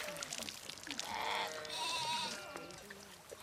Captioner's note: bleating